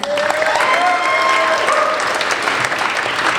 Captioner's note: applauding